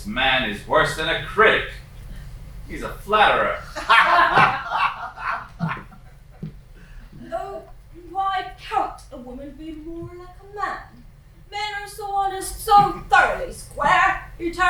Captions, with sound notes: This man is worse than a critic. He's a flatterer. [LAUGHING] Oh, why can't a woman be more like a man? Men are so honest, so thoroughly square.